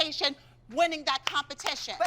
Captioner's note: applause